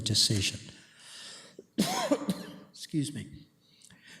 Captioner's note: coughs